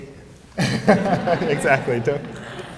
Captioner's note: laughter